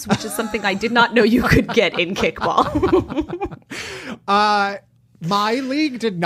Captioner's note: laughs